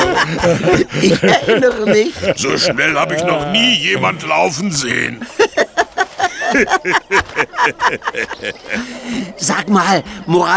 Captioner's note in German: gelächter